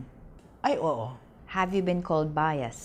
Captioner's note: speaks in foreign language